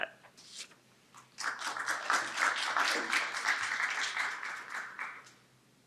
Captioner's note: audience applauding